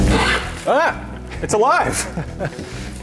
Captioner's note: squeaks